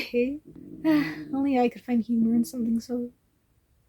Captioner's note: sigh